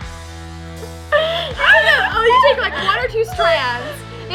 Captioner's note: laughing